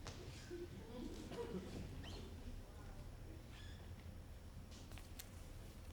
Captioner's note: audience members laugh